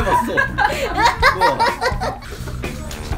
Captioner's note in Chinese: 大笑